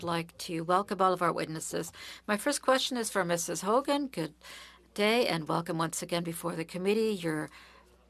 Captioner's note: speaking French